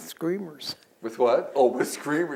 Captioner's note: laughs